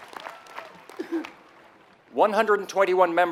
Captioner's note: applause